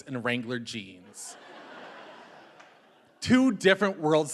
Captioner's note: audience laughing